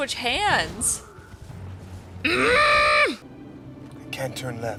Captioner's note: angry girlfriend noises